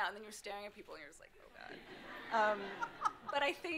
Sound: audience laughing

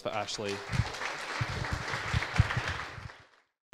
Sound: applause

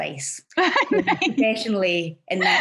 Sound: laughs

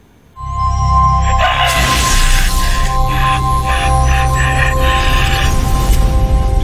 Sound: screaming

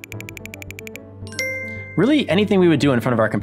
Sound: computer chimes

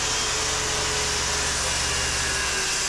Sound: drill whirring

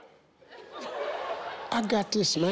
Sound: audience laughing

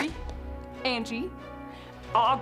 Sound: bow string snapping

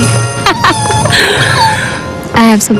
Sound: wife laughs

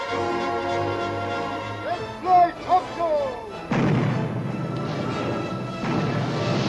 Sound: cannons firing

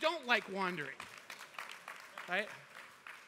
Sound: applause

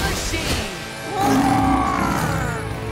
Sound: growling

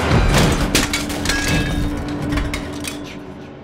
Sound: door slams open

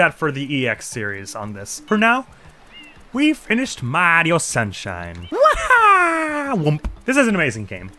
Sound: as Mario

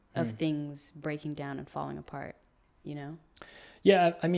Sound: none

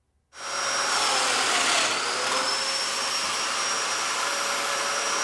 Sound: cutting wood with saw

